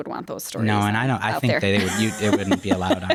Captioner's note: laughs